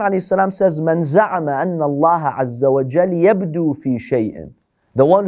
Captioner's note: Arabic